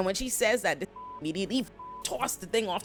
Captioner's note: beep